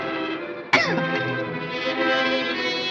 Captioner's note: coughs